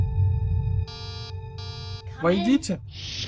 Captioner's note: door buzzes